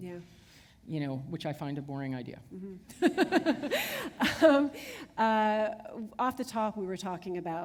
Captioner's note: chuckle